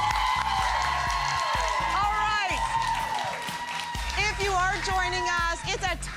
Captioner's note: applause